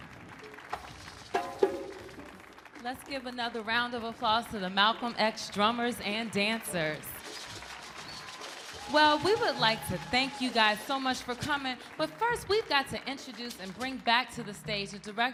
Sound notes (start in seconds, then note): 1.3 soft drumming; 7.8 people cheering